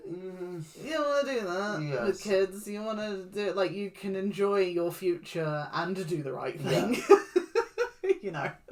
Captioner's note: discomfort noises; laughs